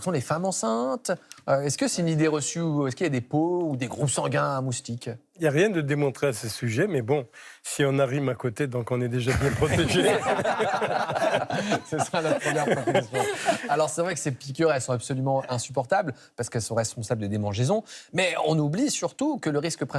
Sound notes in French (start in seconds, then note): 9.3 rires